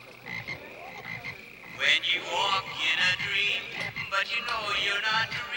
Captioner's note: frogs croaking